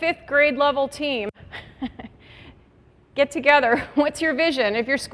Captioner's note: laughs